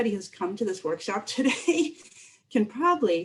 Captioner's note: laughter